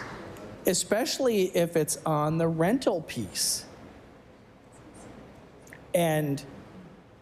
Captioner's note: applause